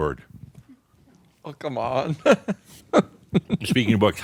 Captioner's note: he chuckles